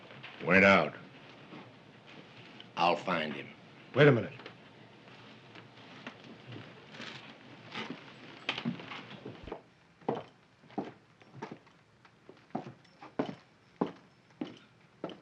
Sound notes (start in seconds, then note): none